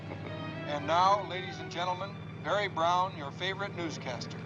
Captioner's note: announcer on radio